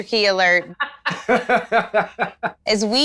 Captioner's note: laughing